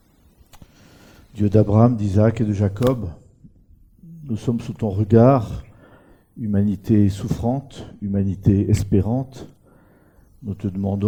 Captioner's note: makes a prayer in French